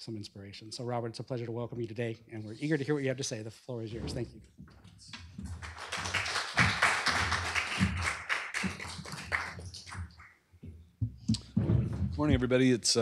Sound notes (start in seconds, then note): 5.4 applause